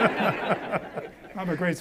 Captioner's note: audience laughs